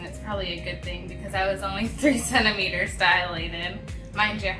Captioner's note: laughs